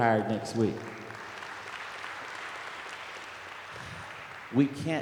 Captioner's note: applause